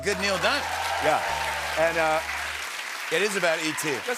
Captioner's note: cheers and applause